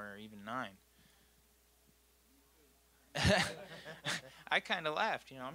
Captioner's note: all laughing